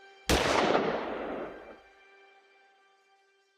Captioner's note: gunshot blasts